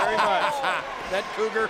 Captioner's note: commentator laughing